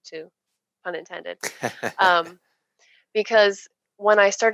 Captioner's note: laughing